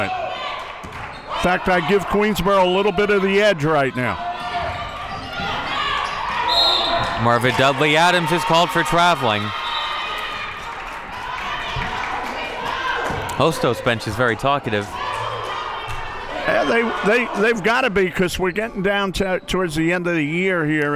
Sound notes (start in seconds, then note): 6.4 whistle blows; 10.6 people clamoring